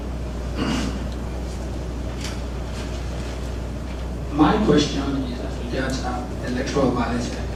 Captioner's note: cough